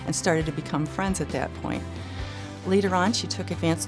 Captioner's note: none